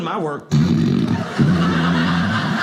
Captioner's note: snore noise; audience laughing